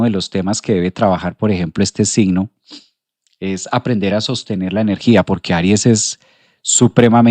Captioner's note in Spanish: resoplido